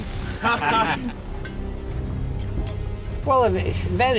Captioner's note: men laughing